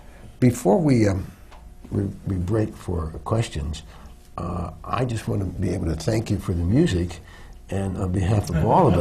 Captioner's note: laughter